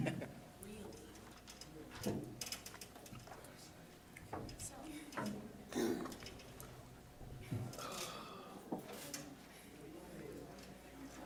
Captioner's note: general chatter